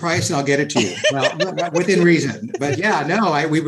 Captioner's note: laughs